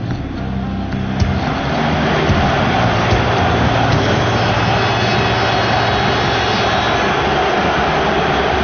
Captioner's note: crowd cheering